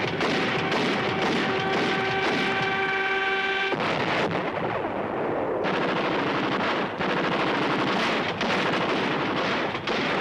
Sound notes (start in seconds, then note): 0.0 artillery firing; 0.0 bom explodes; 3.7 guns firing; 3.7 plane thuds